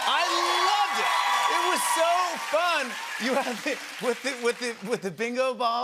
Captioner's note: cheers and applause